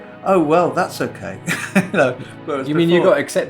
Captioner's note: laughter